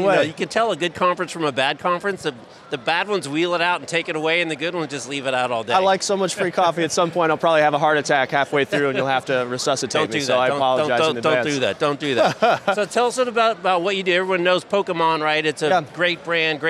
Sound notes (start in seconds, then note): 12.1 laughs